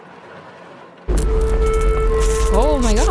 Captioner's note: eerie sounds and electrical surge